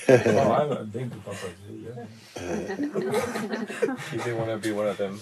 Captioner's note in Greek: γέλια